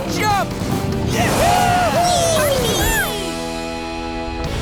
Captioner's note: cheering